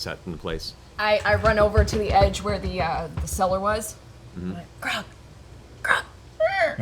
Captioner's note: whispering